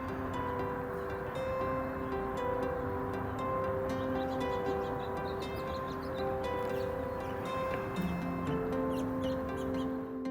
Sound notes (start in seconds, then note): 0.0 birds chirping; 0.0 lighthearted music